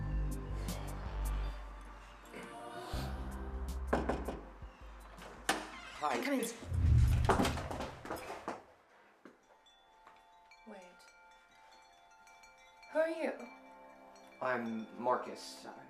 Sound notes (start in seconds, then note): 3.9 knocking; 6.5 rustling; 9.4 magical chiming